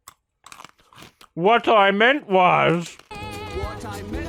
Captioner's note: mockingly